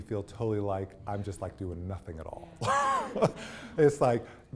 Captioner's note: laughs